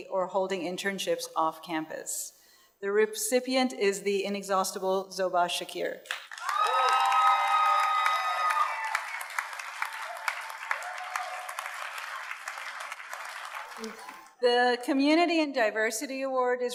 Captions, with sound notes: or holding internships off-campus. The recipient is the inexhaustible Zoba Zakir. (audience cheers and applauds) The Community and Diversity Award